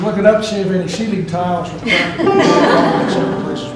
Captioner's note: laughter